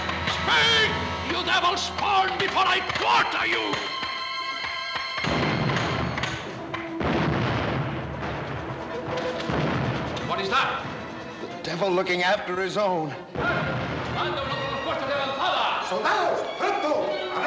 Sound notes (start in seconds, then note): 5.0 explosions; 13.8 shouting in spanish